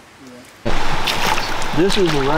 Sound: water flowing

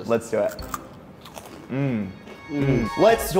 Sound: both crunch

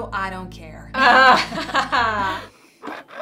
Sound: laughter

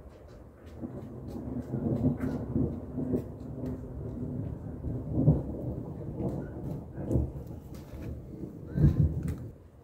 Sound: distant rumbling thunder

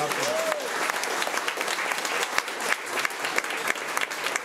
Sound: crowd clapping

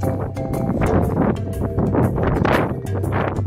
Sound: stormy winds blowing

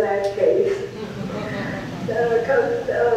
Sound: audience laughs

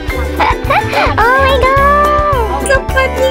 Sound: chuckles

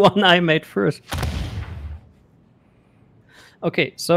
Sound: booming sound

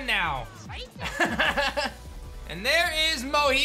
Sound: laughs

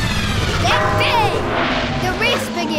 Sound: gong sounds

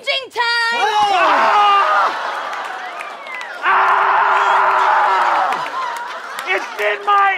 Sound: screaming

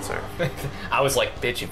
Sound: laughing

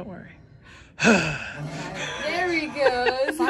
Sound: sighs, growls & moves

